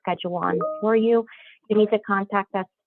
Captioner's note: computer dings